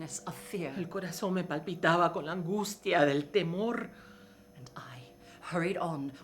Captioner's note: speaking in foreign language